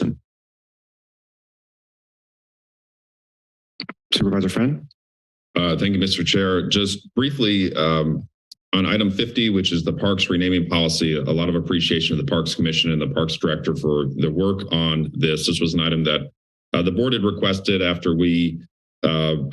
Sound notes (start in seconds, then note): 0.2 silence; 3.8 click